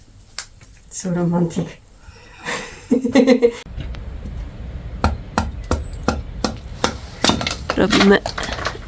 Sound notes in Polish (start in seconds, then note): 2.4 śmiech